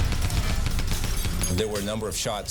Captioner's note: gunshots firing